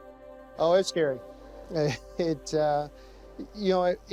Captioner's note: laughs